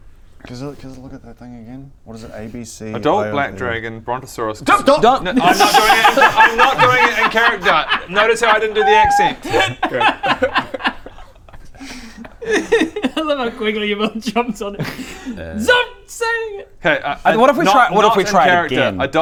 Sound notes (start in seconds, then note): 12.3 laugh-cries